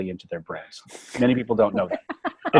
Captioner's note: laughing